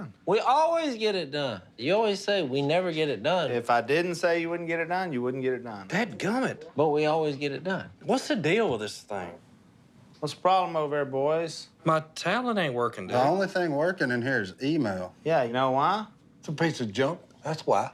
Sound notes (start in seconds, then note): none